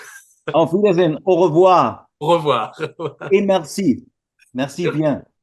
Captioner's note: laughter